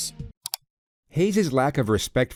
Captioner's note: click